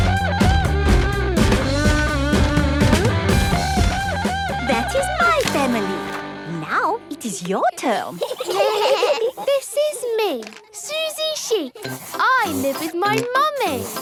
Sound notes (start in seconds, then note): 7.8 children giggling